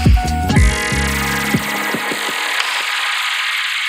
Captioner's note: logo whirring